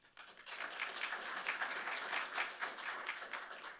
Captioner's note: audience clapping